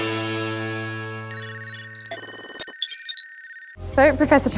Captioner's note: upbeat music; electronic beeping